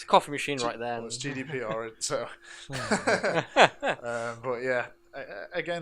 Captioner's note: laughing